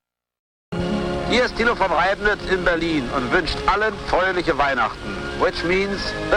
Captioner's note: speaking German